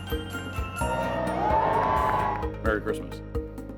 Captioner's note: crowd cheering